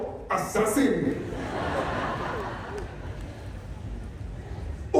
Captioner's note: laughter